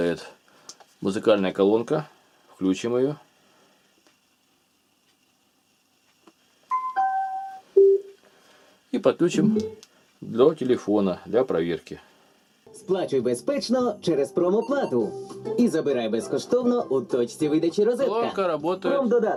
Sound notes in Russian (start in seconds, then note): 9.2 Звучит радио